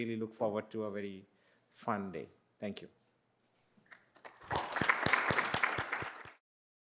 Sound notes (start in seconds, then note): 3.9 applause